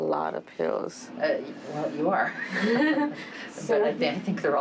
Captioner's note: laughs